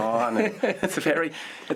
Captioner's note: laughter